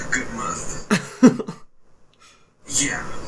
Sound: chuckles

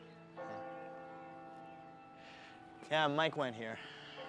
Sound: bell tolling

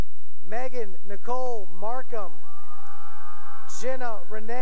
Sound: cheering

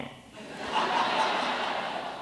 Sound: laughter

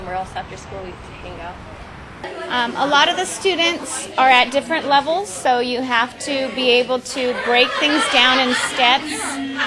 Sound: classroom sounds in the background

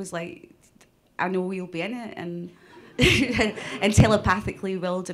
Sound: laughs

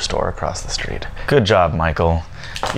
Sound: sarcastically

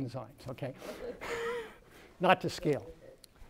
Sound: laughter

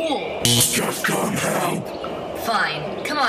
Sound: bzzt

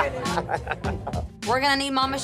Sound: laughs

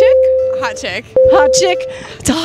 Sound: ding

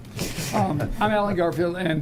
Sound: laughing

